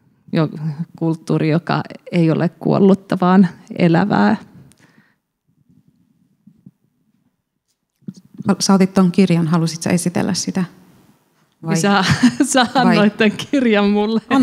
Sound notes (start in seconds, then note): 11.6 laughs